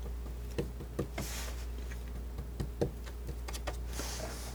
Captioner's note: scratching